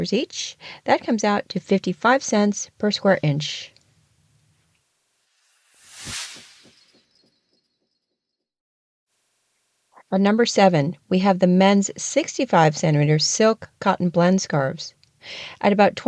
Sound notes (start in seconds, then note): 5.3 sound effect